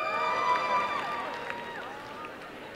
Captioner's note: applause and cheering